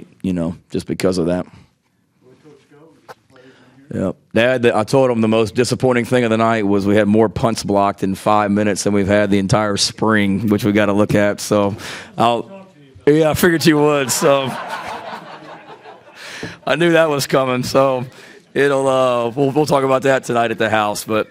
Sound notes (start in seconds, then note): 2.5 man chattering; 13.2 people laughing